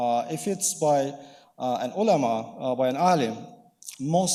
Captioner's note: speaking in foreign language